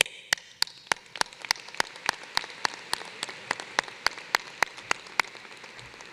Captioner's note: applause